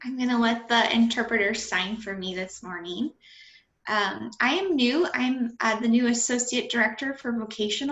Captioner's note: speaking